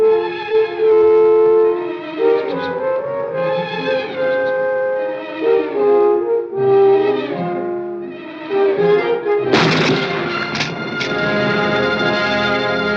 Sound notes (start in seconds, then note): 9.5 gunshot